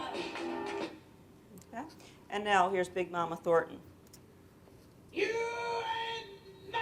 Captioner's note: silence--blocked for copyright violation